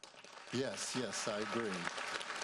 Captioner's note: audience applauds